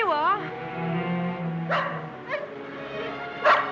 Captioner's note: barking